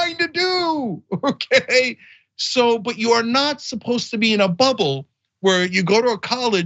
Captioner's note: laugh